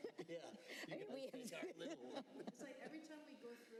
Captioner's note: laughter